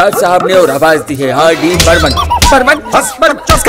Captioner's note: Slaps